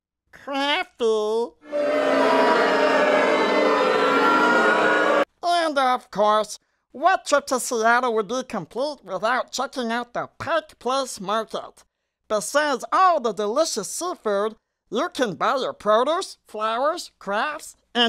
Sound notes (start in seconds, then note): 1.6 booing